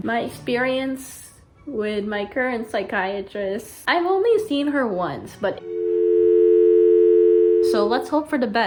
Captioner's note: phone line rings